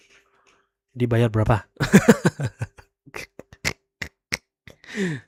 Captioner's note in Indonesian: tertawa